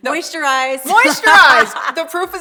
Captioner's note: laughs loudly